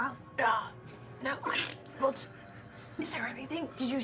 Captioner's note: stammering